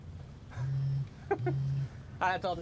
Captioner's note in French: téléphone qui vibre